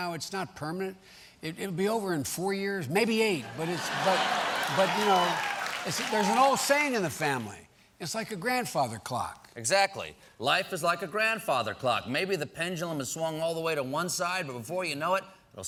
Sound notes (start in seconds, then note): 3.4 laughter